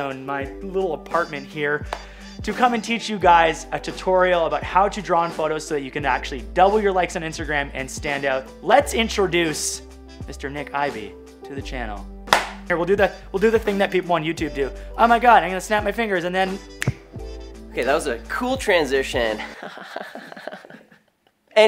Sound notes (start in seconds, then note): 12.2 hands clapping; 19.4 laughing